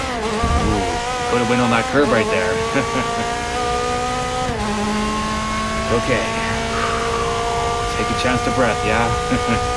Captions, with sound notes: Oooo! Could've went on that curb right there! Okay! *Breathing out* Take a chance to breathe ya? Ha ha!